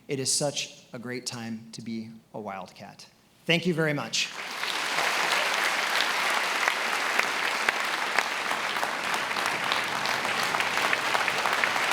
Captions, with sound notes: It is such a great time to be a Wildcat. Thank you very much. (attendees applauding)